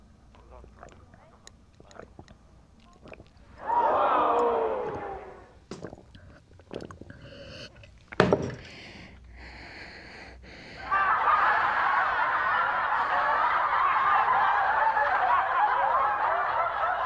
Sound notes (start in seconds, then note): 10.7 laughing